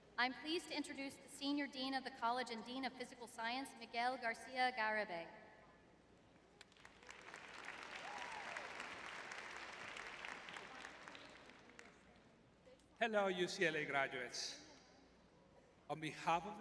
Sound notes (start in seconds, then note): 7.5 audience cheering; 10.3 audience applauding